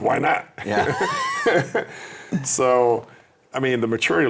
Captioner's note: laughing